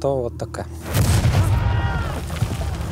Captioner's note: crashes, screams